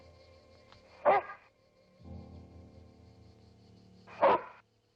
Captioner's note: dog barking